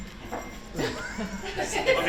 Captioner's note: laughs